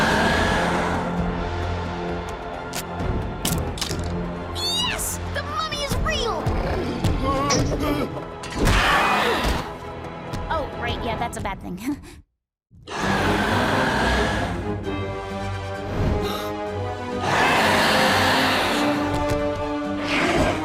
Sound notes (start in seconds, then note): 0.0 growling; 14.8 growling; 16.5 gasps; 17.8 growling